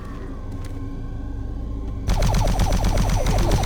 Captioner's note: gunfire